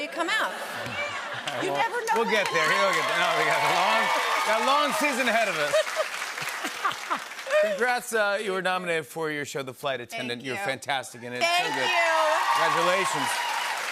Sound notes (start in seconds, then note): 0.6 laughter; 5.4 both laugh